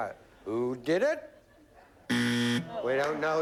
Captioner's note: buzzer